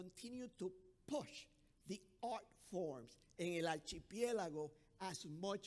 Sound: speaking foreign language

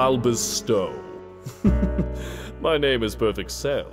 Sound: chuckling

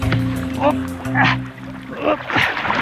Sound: struggle noises

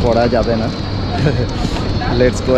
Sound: laughing

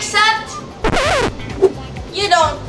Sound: record scratches

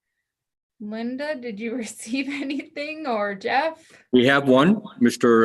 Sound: chuckles

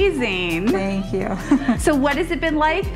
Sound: chuckles

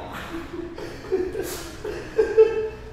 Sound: laughs

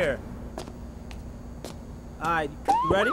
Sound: footsteps thudding

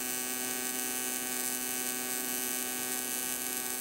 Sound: welder buzzing

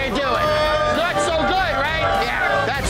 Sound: customers booing

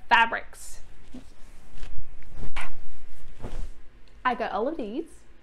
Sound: rustling of fabrics

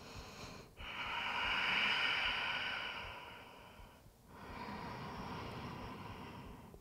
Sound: deep breathing

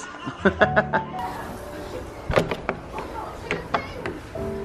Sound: laughing

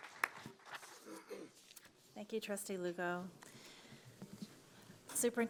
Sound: applause

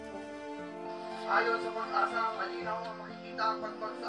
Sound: man on radio

